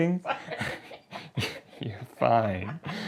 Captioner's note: laughing